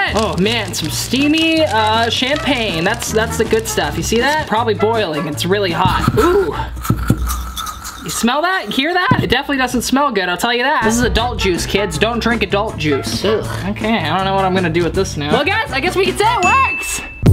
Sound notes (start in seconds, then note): 6.8 crackling; 17.1 funky music